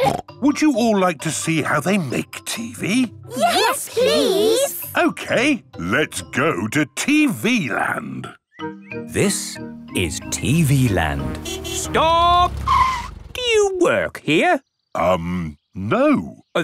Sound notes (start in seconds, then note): 11.1 tires screeching